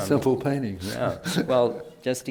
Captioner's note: laughs